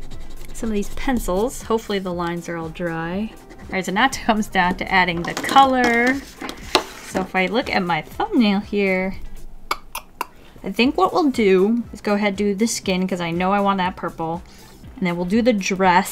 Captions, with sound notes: some of these pencils hopefully the lines are all dry. All right, so now it comes down to adding the color. So if I look at my thumbnail here... *Tk tk tk* I think what we'll do is go ahead do the skin cuz I know I want that purple and then we'll do the dress...